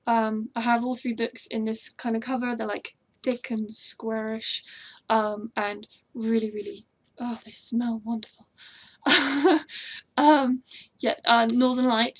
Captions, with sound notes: um I have all three books in this kinda cover, they're like thick and square-ish Um, and really really-- ah they smell wonderful [laughs] Um, yeah Northern Lights